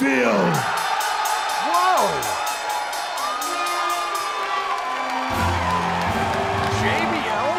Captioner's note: crowd cheering